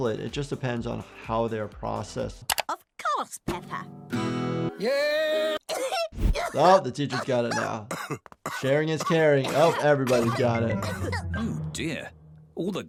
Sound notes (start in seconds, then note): 5.6 madame gazelle coughs; 7.0 daddy pig coughs